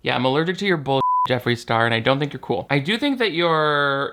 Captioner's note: beep